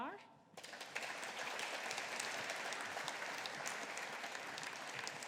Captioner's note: audience applauding